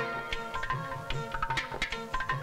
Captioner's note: Tapping